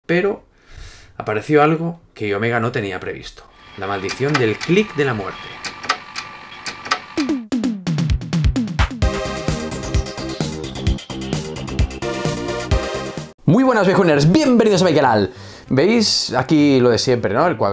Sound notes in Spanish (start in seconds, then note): 6.8 click of the death